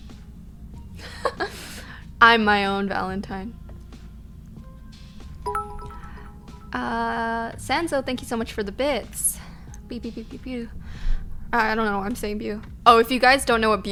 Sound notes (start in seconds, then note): 1.1 she laughs; 5.4 notification tingling